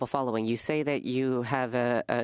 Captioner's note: speaking French